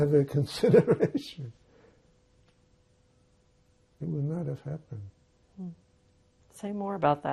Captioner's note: laughing